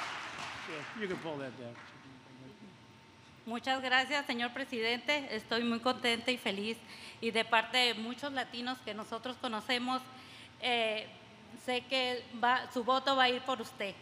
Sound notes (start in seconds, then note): 5.0 speaks Spanish